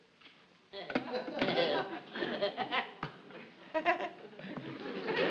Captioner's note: audience laughs